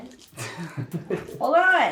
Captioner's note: laughs